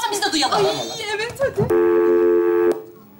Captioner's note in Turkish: Telefon çalar